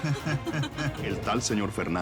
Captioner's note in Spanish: Risas